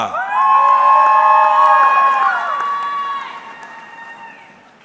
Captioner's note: audience cheering